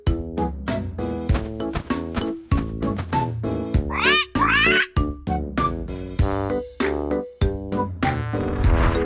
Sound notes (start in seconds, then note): 3.8 parrot squawks